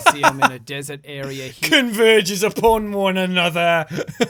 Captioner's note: laughs; mocking